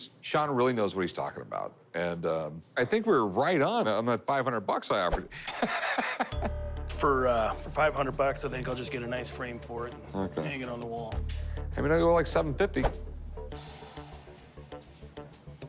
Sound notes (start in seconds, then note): 5.4 laughing